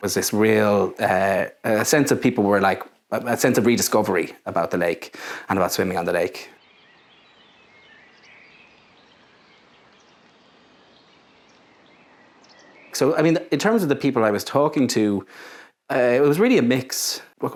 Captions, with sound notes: There's this real sense that people were like – a sense of rediscovery about the lake and about swimming on the lake. [birdsong] So I mean, in terms of the people I was talking to, it was really a mix –